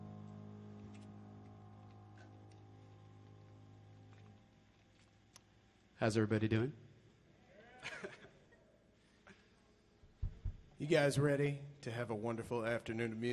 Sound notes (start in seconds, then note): 7.7 audience cheers; 7.7 pianist chuckles